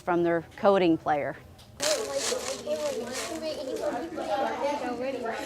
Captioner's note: children talking